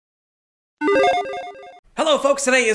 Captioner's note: electronic beeping